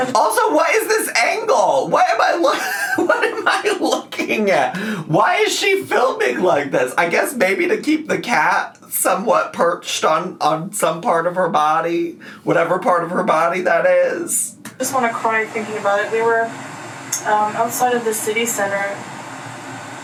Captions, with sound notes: - Also, what is this angle? What am I look (laughs) What am I looking at? Why is she filming like this? I guess maybe to keep the cat somewhat perched on some part of her body, whatever part of her body that is. - I just wanna cry thinking about it. We were outside of the city center,